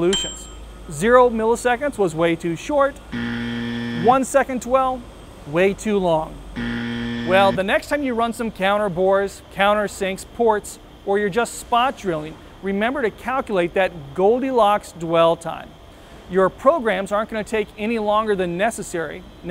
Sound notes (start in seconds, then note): 0.0 ding; 3.1 buzzer; 6.5 buzzer